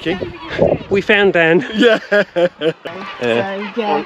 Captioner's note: laughter